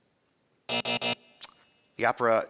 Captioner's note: buzzing